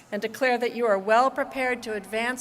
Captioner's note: none